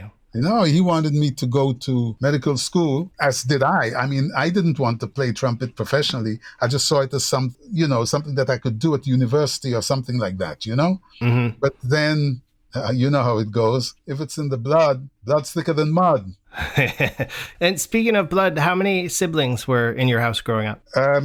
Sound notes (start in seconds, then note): 16.5 laughter